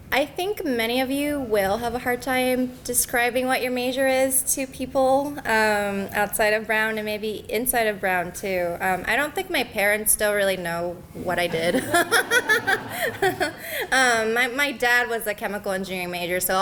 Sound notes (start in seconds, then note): 11.5 laughter